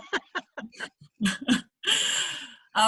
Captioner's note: laughter